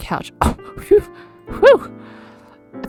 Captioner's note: exhales